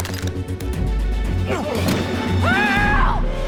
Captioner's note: fighting, grunts